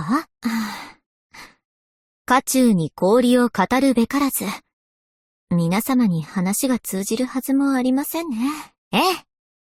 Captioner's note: sigh